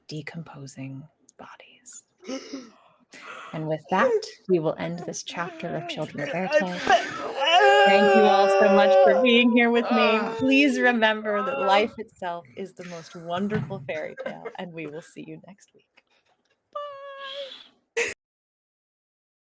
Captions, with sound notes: decomposing bodies. (gasps) And with that, we will end this chapter of children Éarte. Thank you all so much (groaning) for being here with me. Please remember that life itself is the most wonderful fairytale. And we'll see you next week. Bye.